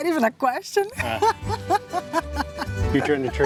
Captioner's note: laughs